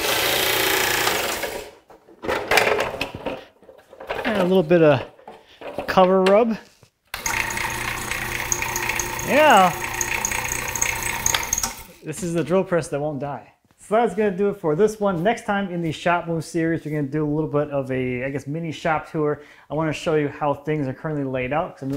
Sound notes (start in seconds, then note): 0.0 motor; 7.2 motor